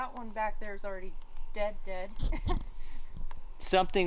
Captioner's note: chuckles